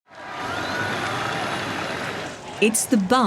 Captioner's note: cheering